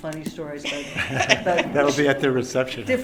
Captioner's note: laughter